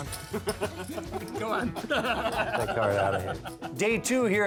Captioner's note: laughter